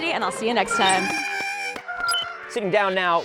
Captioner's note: Porg sounds